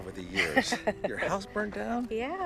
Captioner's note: laughing